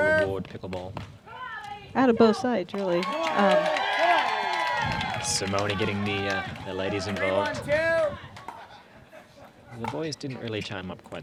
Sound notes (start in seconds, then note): 2.8 applause